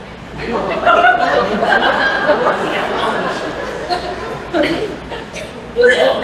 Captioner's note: laughter